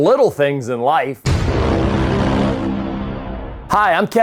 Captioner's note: logo thuds; hard airy music